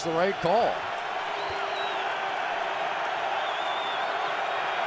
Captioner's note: cheering